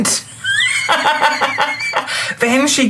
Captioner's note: laughs